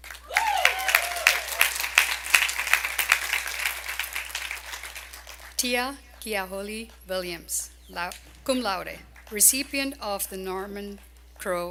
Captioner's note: applause